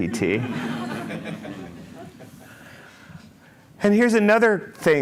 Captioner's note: laughter